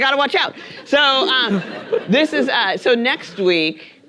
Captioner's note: audience laughing